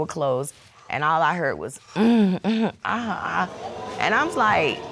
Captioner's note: imitating moaning